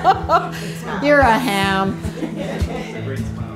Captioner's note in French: rires du groupe